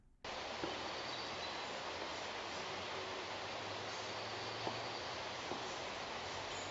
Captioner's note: white noise crackling; soft knocks thudding